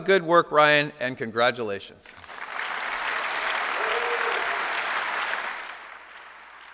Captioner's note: applause